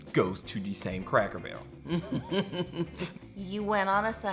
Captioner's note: laughs